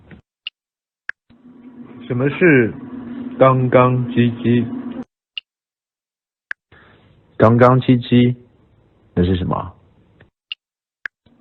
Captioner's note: Cantonese